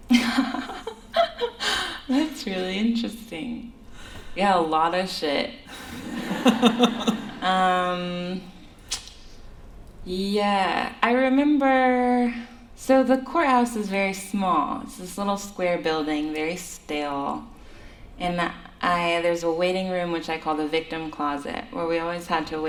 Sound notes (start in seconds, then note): 0.1 laughs; 5.7 laughter